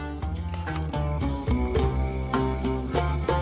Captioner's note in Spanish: Grillos